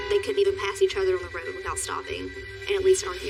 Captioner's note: honki horn